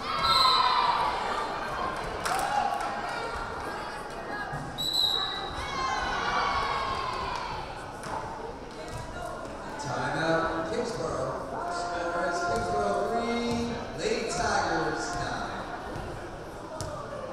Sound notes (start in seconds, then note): 0.0 crowd cheering; 0.3 whistle blaring